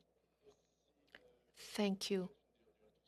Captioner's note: speaking French